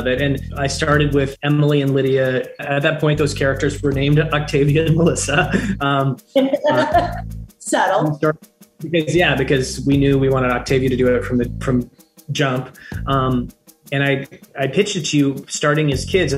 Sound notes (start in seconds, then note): 6.4 Melissa laughing